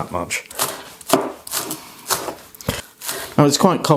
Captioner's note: chop chop chop